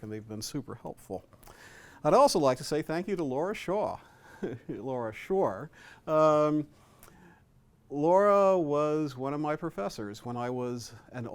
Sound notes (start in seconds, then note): 4.3 chuckles